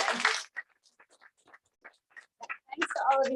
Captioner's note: applause